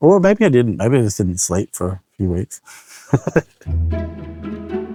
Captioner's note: chuckles